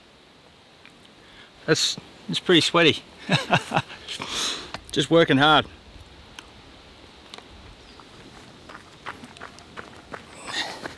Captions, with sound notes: That's, it's pretty sweaty. [LAUGHS] Just working hard.